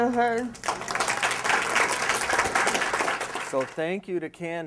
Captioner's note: applause